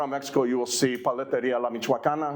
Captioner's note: speaking Spanish